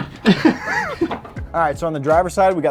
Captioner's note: both laughing